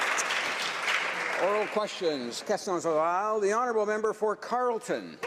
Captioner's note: some Applause